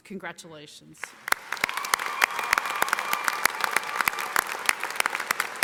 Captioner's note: audience applauding